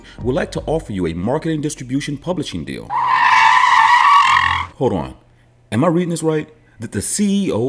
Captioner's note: car Screeching Sound